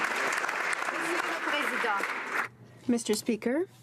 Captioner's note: applause